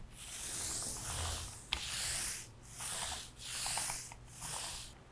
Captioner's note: sticky rolling noises